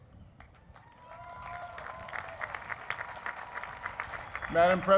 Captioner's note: applause